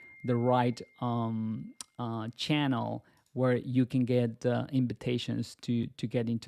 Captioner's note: notification bell chiming